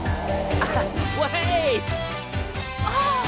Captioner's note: laughing